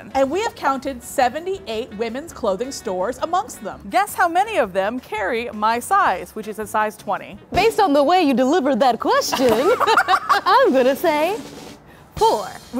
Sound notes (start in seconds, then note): 9.3 both laughing